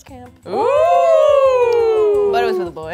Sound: excitedly

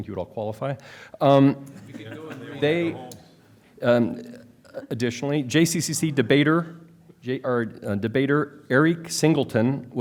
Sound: laughter

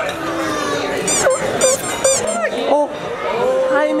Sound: squeaking sounds

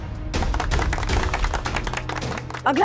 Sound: everyone claps

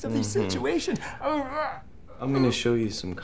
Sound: muffled groans

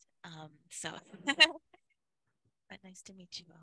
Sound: laughs

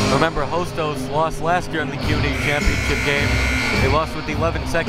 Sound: buzzer

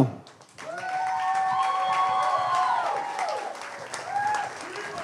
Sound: audience cheers and applauds

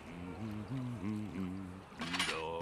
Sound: humming

